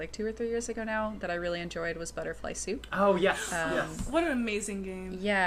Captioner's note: gasps of delight